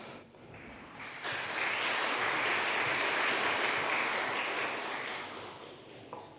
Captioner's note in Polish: oklaski